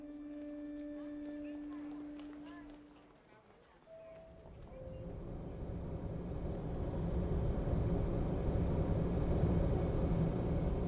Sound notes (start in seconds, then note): 4.3 plane engine whirring